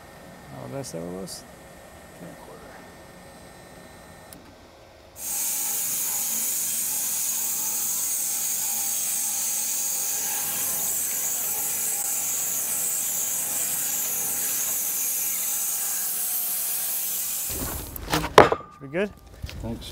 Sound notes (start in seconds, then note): 5.2 saw blade humming